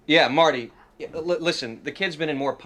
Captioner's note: on phone